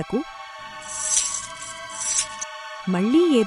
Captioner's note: chain-Rattling Sound in a Distance